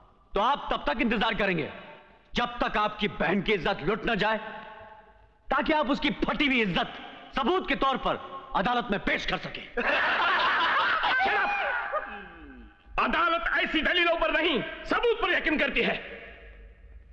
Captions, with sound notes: ...sister you should wait until your sisters virtue is spoilt. So that you can show her tarnished virtue... ...in front of the court as witness. (Laughs) Shut up. The court doesn't believe in such speeches but... ...it believe in evidences.